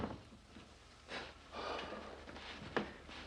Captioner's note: exhales